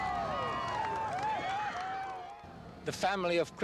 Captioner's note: crowd cheering